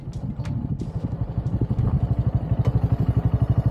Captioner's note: engine noise